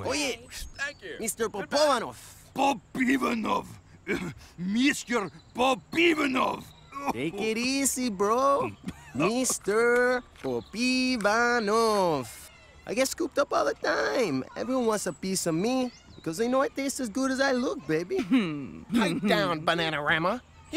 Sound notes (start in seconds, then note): 4.0 coughs